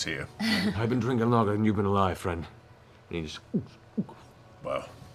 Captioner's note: guzzles